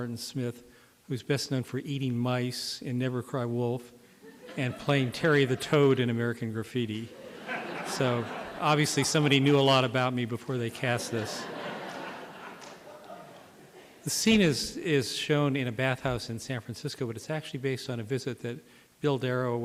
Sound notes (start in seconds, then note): 10.8 laughter